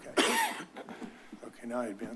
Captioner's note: distant coughing